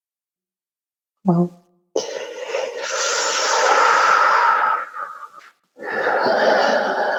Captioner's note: breathing deeply